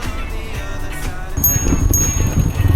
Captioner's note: bell ringing